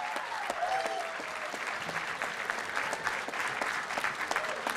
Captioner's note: applause and cheering